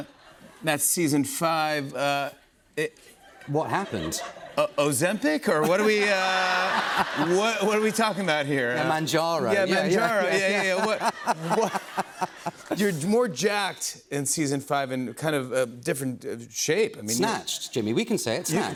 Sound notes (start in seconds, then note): 5.5 laughter; 9.8 laughter